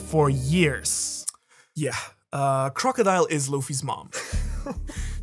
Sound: sucks in air

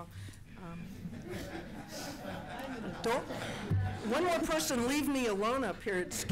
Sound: laughter

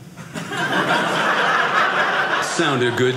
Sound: audience laughing

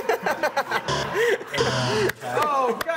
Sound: bell dings; buzzer

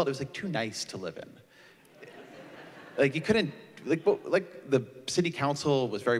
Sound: laughter

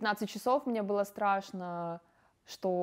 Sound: speaking russian

